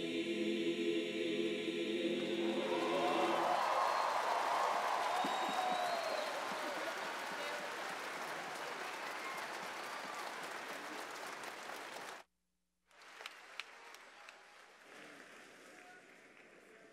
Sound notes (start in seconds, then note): 4.2 applause